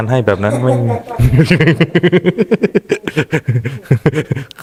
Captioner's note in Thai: เสียงหัวเราะ